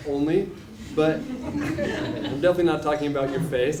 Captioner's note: laugh